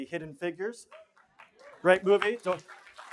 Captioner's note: applause